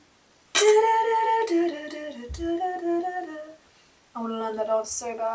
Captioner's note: humming tune